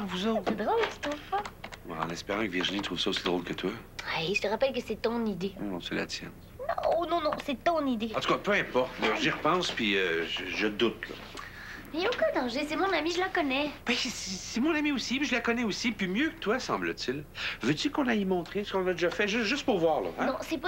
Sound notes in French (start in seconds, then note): none